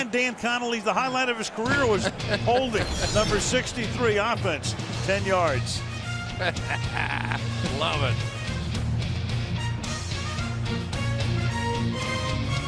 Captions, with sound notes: But until then, Dan Connolly, the highlight of his career was holding number 63 offense, 10 yards. [laughs] Love it. [uplifting music]